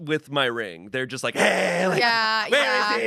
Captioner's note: yells